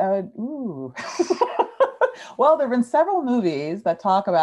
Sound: laughs

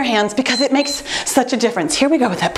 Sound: timer beeps

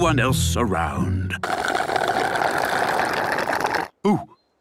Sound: slurping

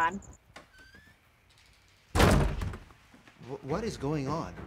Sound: doors slam

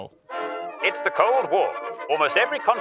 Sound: old news voice

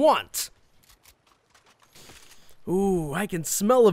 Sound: gun changing clangs

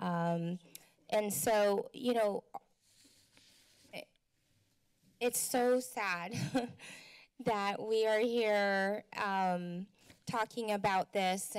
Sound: chuckles

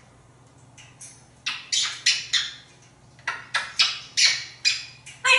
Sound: kisses

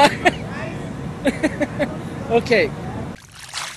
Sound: laughter

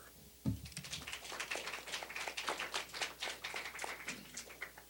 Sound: applause

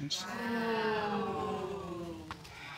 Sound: audience booing

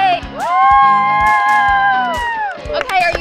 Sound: everyone cheering

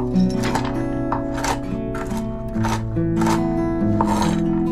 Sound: knife cutting nuts

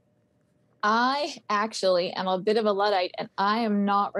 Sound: on phone

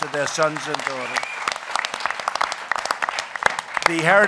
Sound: applause

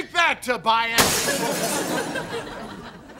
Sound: glass shattering

